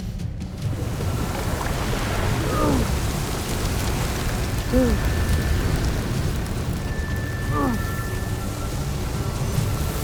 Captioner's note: grunts; powerful whoosh-crackle